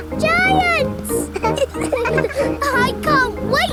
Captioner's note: all laughing